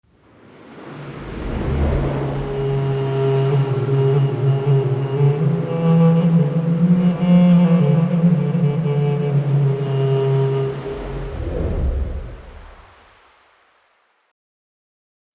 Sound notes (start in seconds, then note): 0.7 peaceful music; 0.7 wind blowS